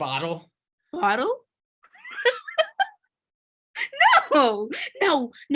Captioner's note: laughing